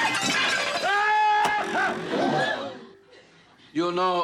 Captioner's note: utensils clattering; Renzo screaming